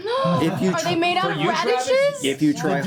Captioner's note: gasps